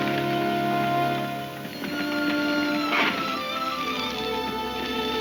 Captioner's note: hooves thudding